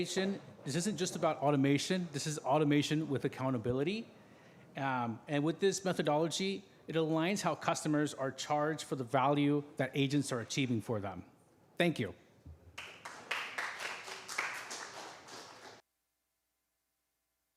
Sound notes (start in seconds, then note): 12.7 applause